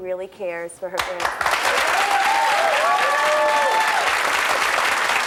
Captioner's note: audience applause